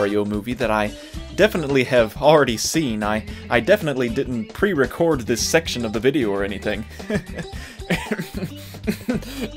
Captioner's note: coughs suspiciously